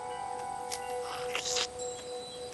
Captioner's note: slurp